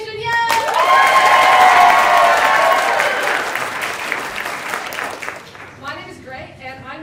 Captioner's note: applause